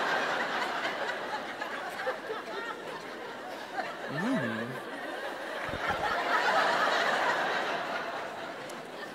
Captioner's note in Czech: Smích